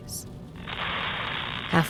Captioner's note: radio crackles